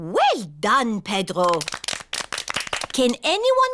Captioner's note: all clap